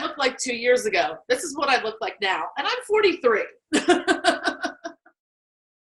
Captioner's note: laughing